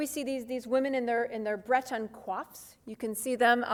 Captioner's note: speaks foreign language